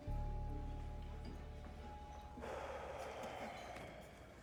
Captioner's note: sighing heavily